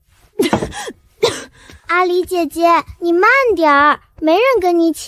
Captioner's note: cough cough